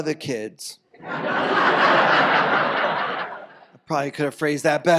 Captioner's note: audience laughs